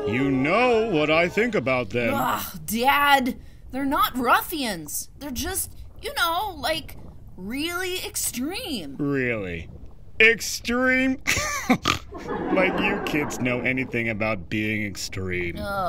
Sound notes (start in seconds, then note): 0.0 studio audience gasps; 11.3 snorting laughter